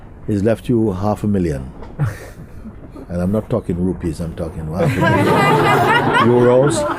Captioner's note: laughter